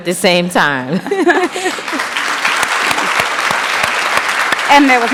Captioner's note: applause